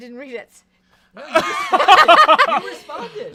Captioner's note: laugh